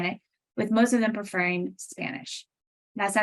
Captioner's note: speaking Spanish